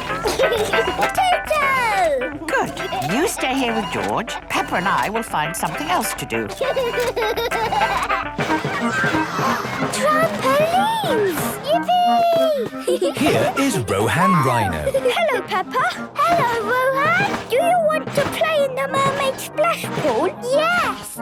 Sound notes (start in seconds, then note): 0.0 giggling; 6.9 George giggles; 8.8 gasps; 12.7 giggling